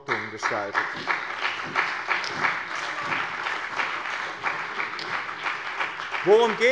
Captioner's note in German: Beifall bei dem BÜNDNIS 90/DIE GRÜNEN und der CDU